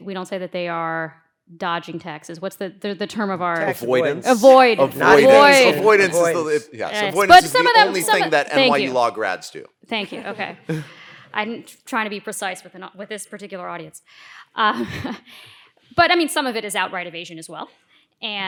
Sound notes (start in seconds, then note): 3.5 group chattering